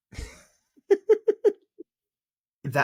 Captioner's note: laughs